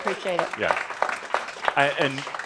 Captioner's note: some applause